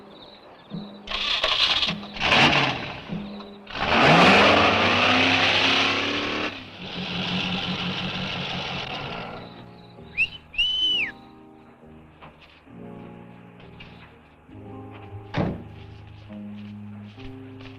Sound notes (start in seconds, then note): 0.7 engine rumbles; 1.0 engine cranks; 9.3 Chase whistles; 12.3 gentle music